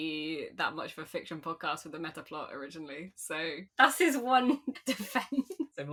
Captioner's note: laughing